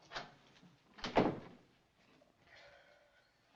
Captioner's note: door Closes